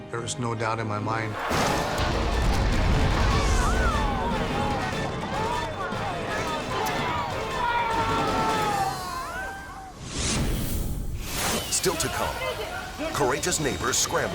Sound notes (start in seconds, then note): 1.4 explosion and screams; 10.1 logo squishes